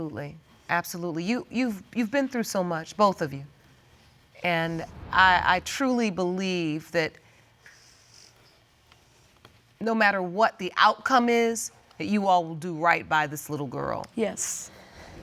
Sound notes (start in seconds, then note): none